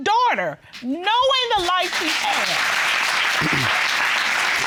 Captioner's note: audience applauding